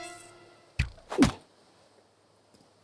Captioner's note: grunts